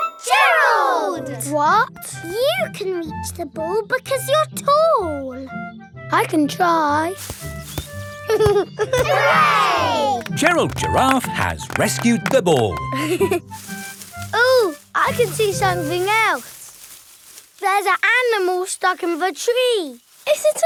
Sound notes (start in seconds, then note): 7.1 leaves rustle; 8.2 giggling; 13.2 leaves rustling